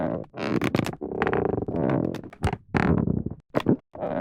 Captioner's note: brake line creaking